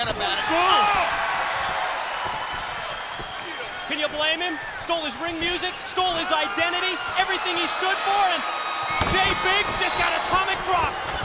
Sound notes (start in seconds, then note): 3.1 crowd chatter